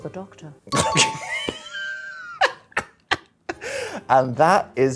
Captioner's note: laughing